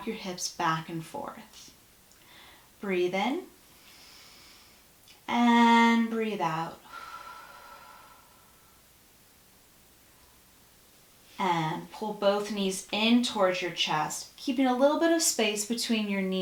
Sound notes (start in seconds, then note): 5.7 breath